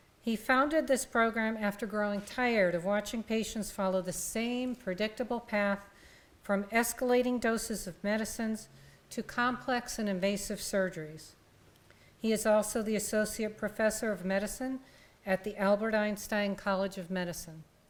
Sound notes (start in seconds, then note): none